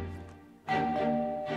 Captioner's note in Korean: 띵동